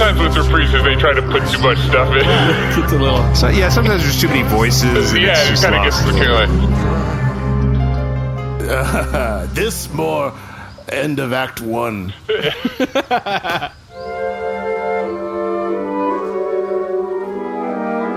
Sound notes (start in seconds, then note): 11.8 laughing